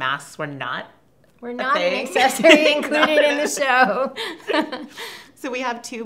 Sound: both laugh

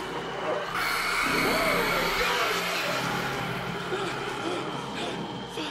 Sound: screaming; panting

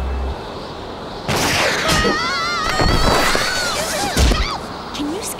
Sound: screams

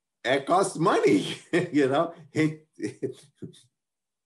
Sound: chuckles

